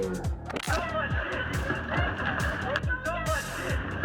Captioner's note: indistinct shouting